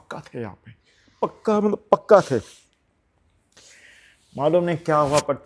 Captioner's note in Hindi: नाक से की जाने वाली आवाज़